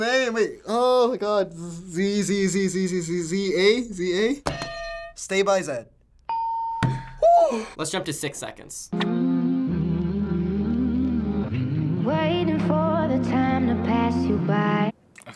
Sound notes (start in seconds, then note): 4.5 ding; 4.5 hitting bell; 9.0 humming